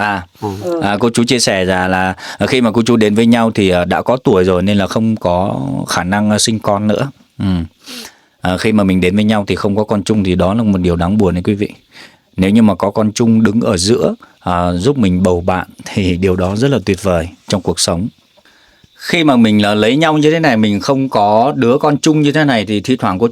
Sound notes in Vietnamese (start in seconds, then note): 0.4 khịt mũi; 7.7 khịt mũi